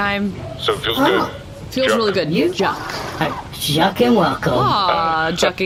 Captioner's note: happily